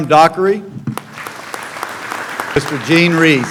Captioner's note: clapping